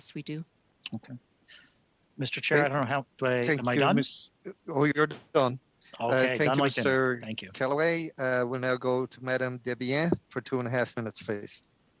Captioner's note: speaking French